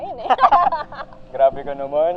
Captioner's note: laughs